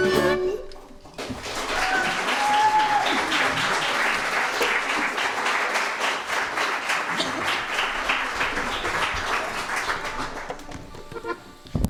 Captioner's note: applause